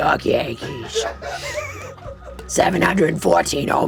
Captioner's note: audience laughing